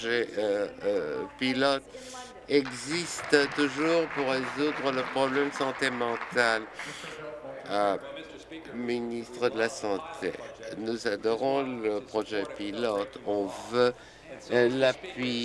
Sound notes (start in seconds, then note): 6.0 applause